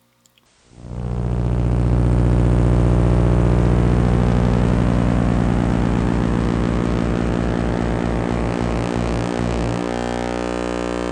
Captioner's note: intro buzz